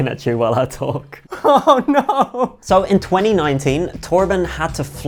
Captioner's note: laughing